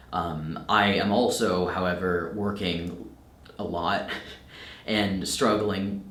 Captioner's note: chuckles